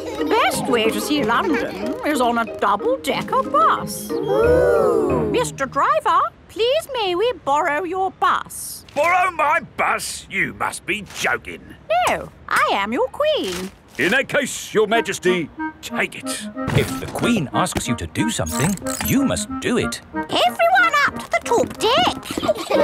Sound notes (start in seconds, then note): 4.3 kids gasps in awe